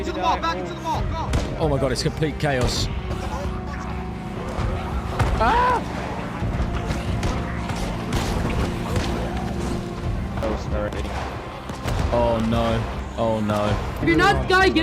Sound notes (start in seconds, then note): 1.3 gunshots; 3.1 zombies snarling; 6.5 bangs